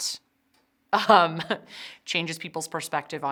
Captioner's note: chuckles